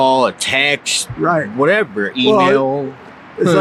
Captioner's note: chuckles